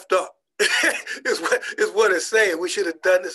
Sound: laughing

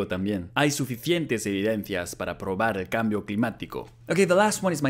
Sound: says the sentence in Spanish

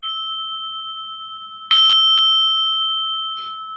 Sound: bell rings

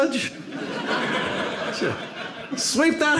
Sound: audience laughs

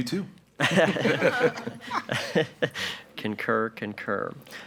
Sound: group laughs

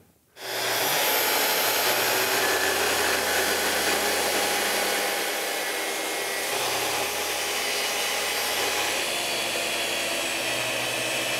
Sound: track saw cutting

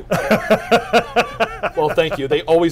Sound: laughter

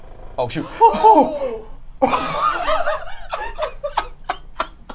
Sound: all laugh

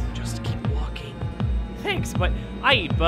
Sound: whispering

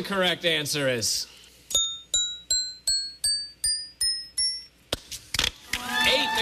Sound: dinging

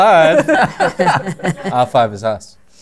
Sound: laughter

